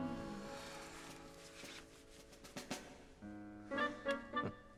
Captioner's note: woman groans